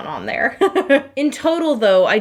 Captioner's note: laughing